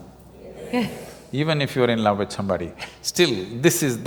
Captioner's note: laughs